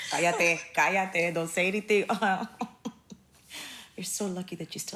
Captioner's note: laughing; chuckles